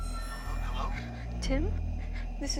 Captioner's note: on phone